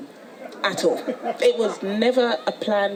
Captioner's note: audience laughs